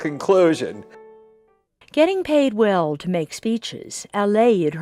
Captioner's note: voiceover